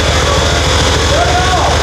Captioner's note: engine revs